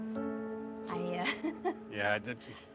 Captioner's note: chuckles